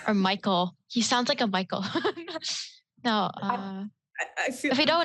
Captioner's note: laughs